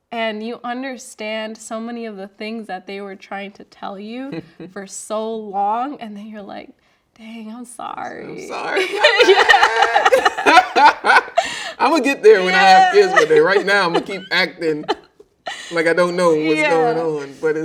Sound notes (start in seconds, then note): 8.7 laughing